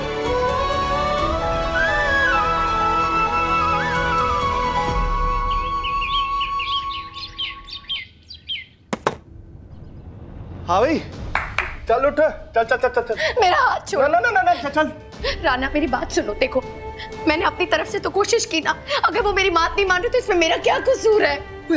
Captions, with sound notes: [birds chirping] Come on, get up. Come on. - Leave my hand. - No, no. Come on. Rana, please listen to me. Look, I tried from my end. How am I to blame if he does not listen to me?